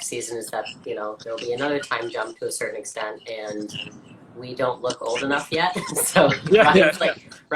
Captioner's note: laughs